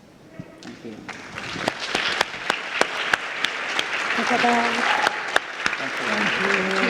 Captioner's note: audience clapping